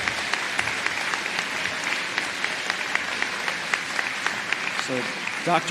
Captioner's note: applause